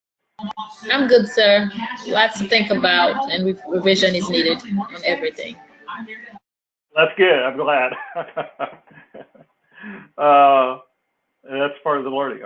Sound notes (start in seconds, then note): 7.0 laugh